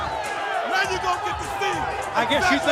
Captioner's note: crowd chatter